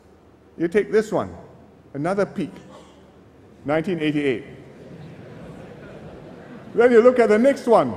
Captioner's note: laughter